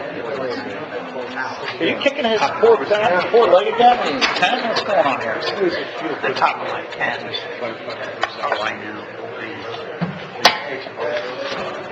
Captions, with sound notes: - Are you kicking this four legged guy? What's going on here? (people chattering quietly)